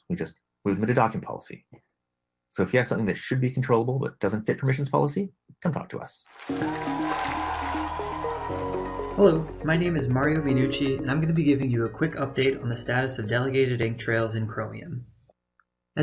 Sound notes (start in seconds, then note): 6.3 applause